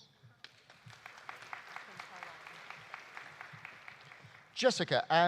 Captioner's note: audience applauding